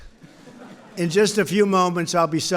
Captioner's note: laughter